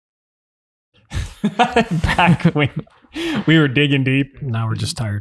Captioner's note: laughing